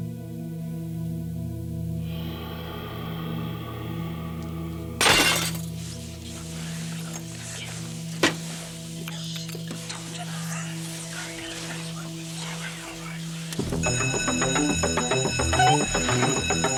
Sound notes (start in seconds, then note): 5.0 glass shattering; 13.7 alarm blaring